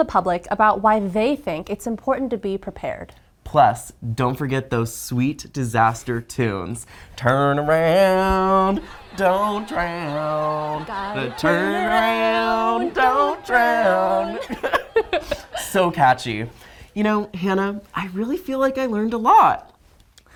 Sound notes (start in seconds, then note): 14.3 laughing